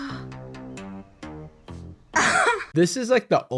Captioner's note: gasps, shocked laughter